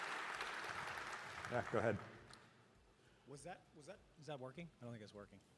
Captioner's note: applause